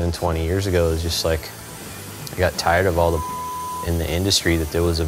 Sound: beep

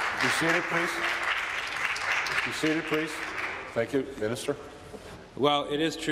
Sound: applause

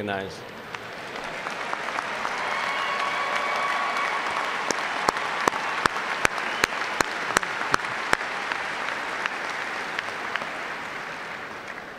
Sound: applause

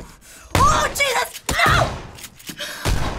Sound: breathing nervously; gun firing

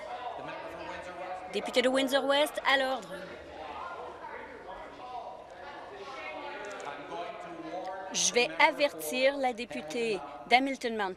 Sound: yelling off mic

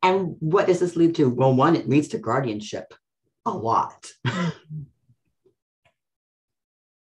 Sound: laughs

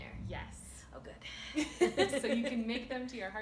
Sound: laughter

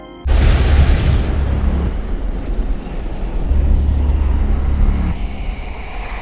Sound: ominous music; voices whispering

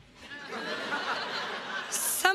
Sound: crowd laughs

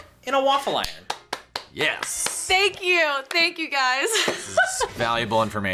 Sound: laughs

